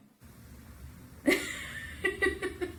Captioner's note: laughter